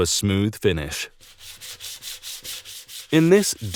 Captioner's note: sandpaper scrapping